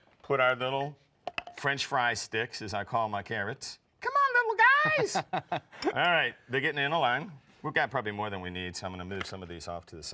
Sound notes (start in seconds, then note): 4.0 in high pitched voice; 4.7 laughs